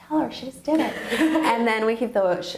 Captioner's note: laughing